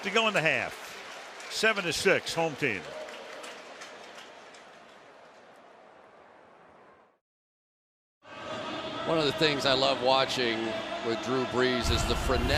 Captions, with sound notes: 8 and 1/2 to go in the half, 7 to 6, home team. [pa announcement] One of the things I love watching with Drew Brees